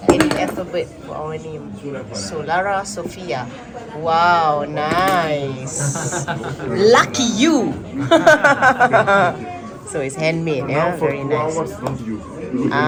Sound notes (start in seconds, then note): 5.7 laugh; 8.8 laugh